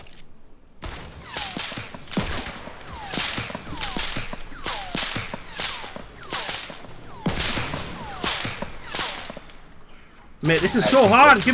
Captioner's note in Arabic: طلقات نارية